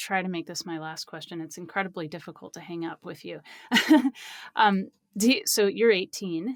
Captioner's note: laughs